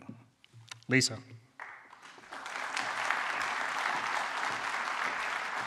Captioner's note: applause